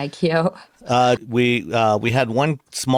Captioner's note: laughs